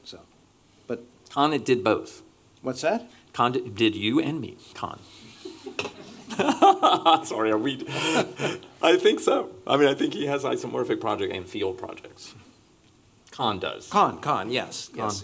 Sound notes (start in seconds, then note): 5.4 laughter